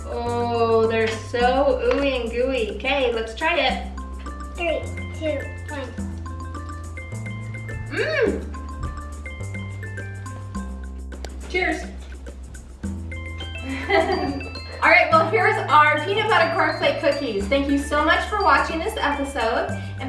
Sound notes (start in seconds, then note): 6.6 playful music; 13.6 laughs